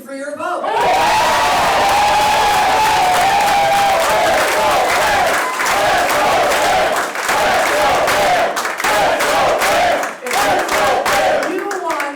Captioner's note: applause and chanting "Let's go Pam"